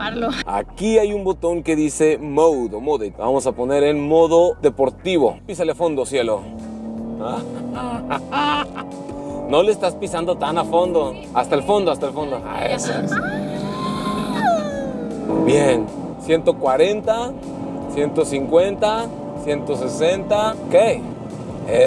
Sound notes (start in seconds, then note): 6.4 engine revving; 12.4 engine revving; 12.8 excitement laughs